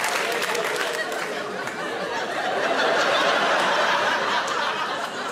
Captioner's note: audience laughing